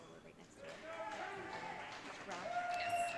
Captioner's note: audience cheering